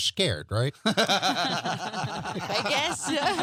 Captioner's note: all laughing